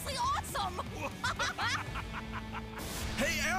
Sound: Juno and Bruiser laughing

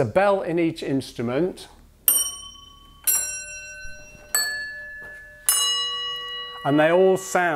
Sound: four bells sound out

